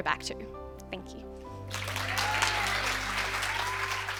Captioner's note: cheers and applause